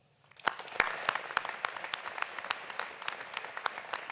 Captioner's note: audience applauding